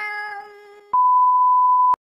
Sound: beep

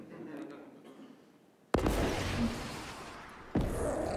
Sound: rocket firing; explosion

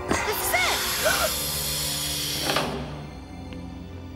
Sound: gasping

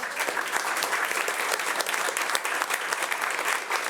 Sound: audience applauding

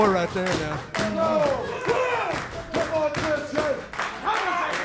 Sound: audience clapping

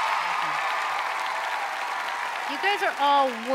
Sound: audience cheers

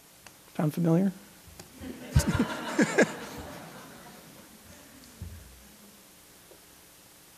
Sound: laughter

